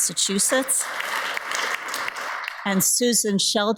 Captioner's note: audience applauds